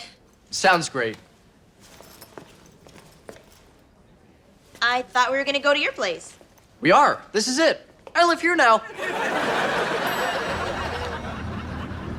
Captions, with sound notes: - Sounds great. - I thought we were gonna go to your place? - We are, this is it. I live here now. (laughs)